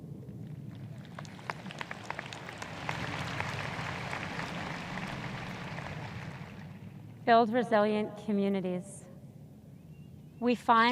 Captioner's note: audience applause